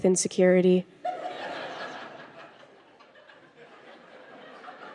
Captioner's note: crowd laughs